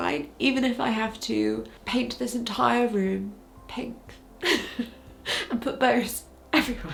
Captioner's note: chuckles